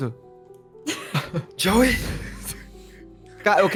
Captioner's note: laughs; whispering